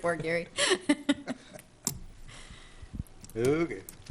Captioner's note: laughing